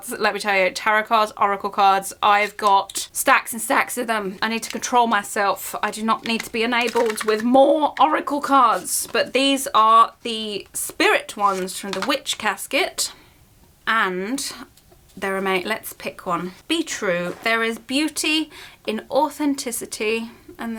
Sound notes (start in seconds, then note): none